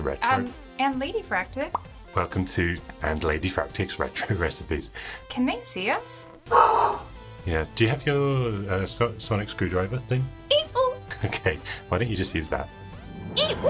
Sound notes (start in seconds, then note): 6.4 dog barking